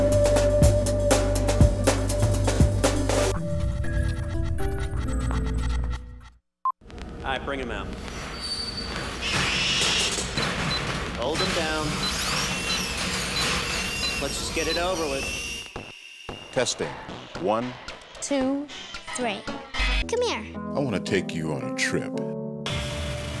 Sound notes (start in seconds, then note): 11.7 animal Screaming & Machinery; 16.3 mechanical Noises